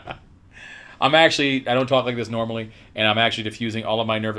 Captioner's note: laughs